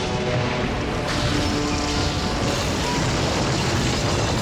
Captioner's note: thunder crashing